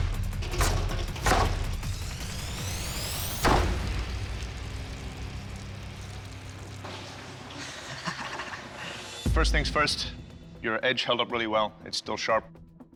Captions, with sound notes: (QUIETLY) [chuckles] First things first, your edge held up really well. It's still sharp.